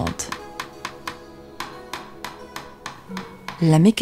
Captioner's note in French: marteau qui tape sur les clous